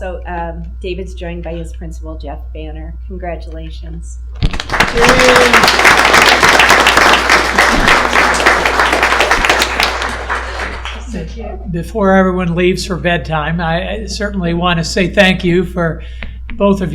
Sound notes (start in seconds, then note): 8.4 applause